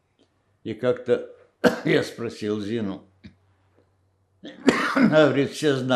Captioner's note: coughing